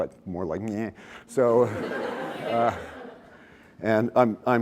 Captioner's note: laughter